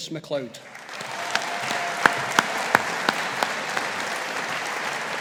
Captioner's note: audience applauding